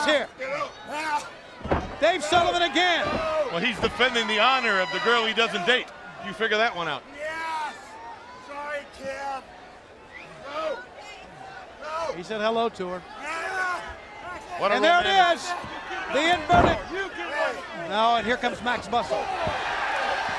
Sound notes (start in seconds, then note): 9.0 crowd chatter; 20.1 crowd cheering